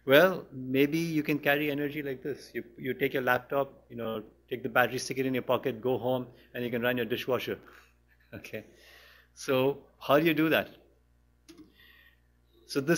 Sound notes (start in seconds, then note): 8.8 chuckles; 11.4 pause